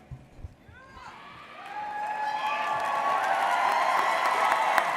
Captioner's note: audience cheers